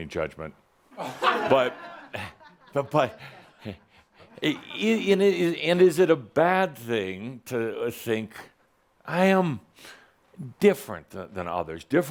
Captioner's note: some laughter